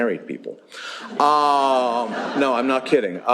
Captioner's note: laughter